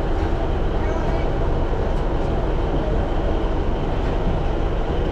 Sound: engine runs

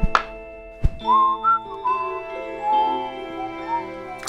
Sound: innocent Whistling

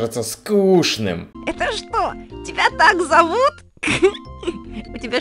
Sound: chuckle

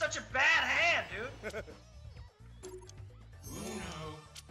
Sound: laugh

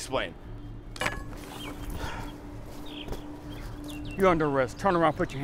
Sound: glass clinks

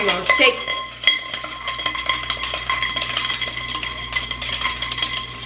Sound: eggs clinking in pot

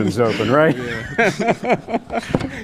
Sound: laughter

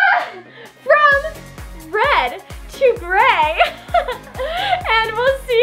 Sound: laughing

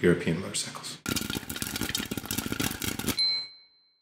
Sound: popping; dinging

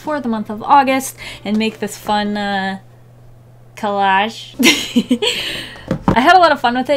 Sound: laughs

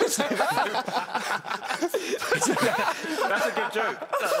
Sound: laughing

